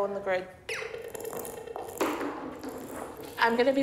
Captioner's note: crossing alarm blips